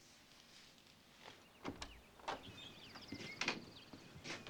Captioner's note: birds chirping